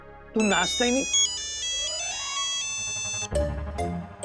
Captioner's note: phone ringing